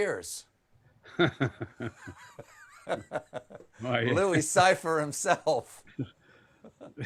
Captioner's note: laughter